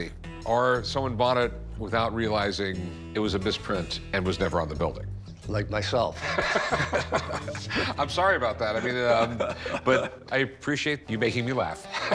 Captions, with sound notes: or someone bought it without realizing it was a misprint and was never on the building. - Like myself. - [laughing] I'm sorry about that. I mean--but I appreciate you making me laugh.